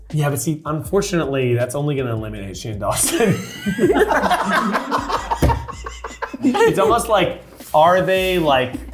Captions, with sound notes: - Yeah, but, see, unfortunately that's only gonna eliminate Shane Dawson. (cast laughing)